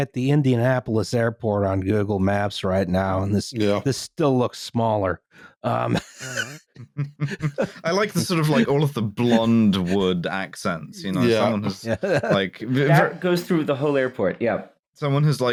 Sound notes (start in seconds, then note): 5.8 laughter; 11.0 chuckling